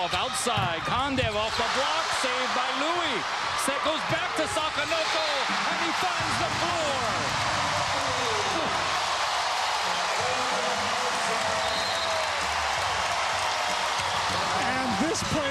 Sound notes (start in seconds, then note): 0.6 cheers and applause